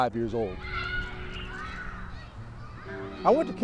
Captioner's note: children squealing